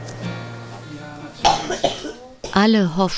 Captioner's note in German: hustet